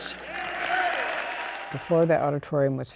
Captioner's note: audience cheers and applauds